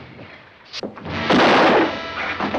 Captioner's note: gunshot